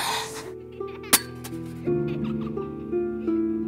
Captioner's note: Thud on ground